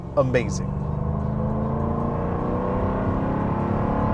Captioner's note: engine roars